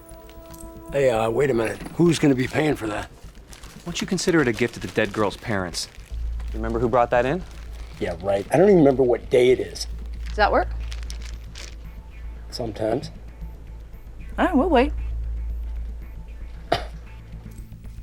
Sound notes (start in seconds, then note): 15.6 scoffs